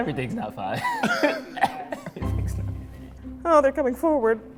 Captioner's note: laughing